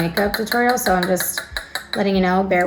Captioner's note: bottle tapping